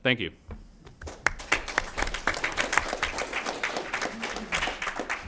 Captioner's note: applause